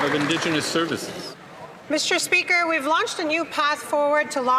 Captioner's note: applause